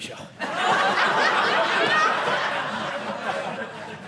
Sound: audience laughing

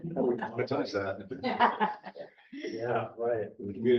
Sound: chuckle

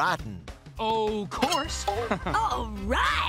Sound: chuckles

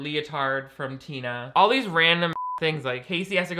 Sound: beep

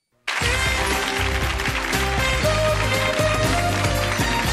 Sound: audience applauds

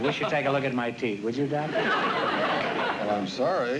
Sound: laughter

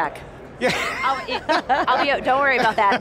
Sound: laugh

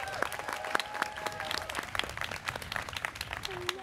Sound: students cheering

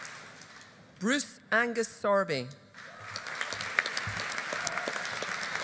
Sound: audience applauding

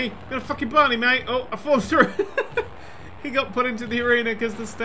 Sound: laughing

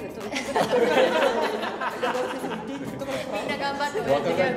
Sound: laugh

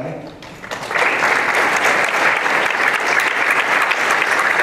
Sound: applause

